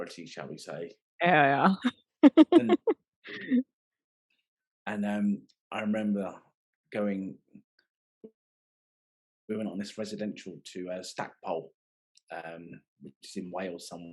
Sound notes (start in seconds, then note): 2.3 laughing